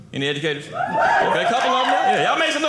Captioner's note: audience cheering